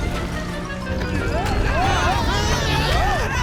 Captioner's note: screaming